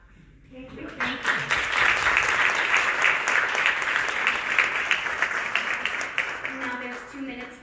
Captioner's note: applause